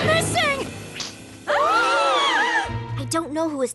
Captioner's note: horrified gasps